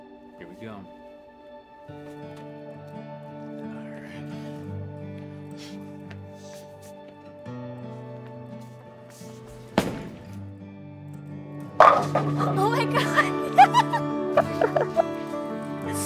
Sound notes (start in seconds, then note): 1.8 gentle acoustic music; 9.8 ball thumps; 11.8 pins clatter; 14.2 giggles